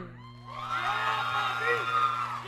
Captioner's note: audience cheering